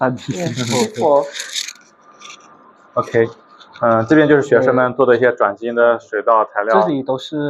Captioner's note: laughs